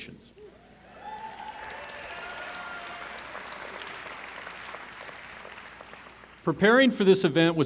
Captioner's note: applause